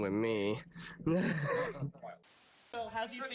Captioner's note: laughs